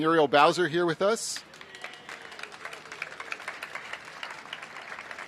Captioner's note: applause